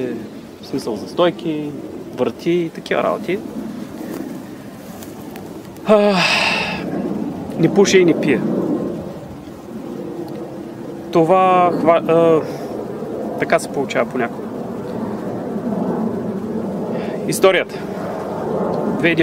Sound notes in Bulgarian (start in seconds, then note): 5.8 Въздишка; 11.3 въздишане